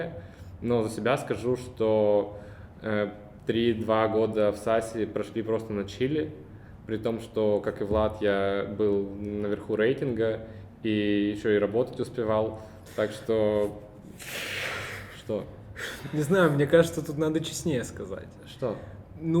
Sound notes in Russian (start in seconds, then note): 14.1 шумно выдыхает